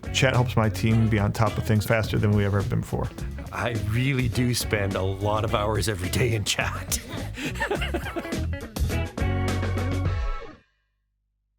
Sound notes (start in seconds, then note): 6.9 laughter